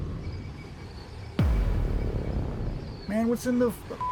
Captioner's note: cinematic boom